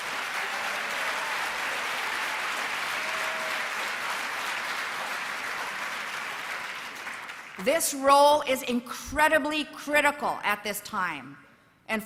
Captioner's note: applause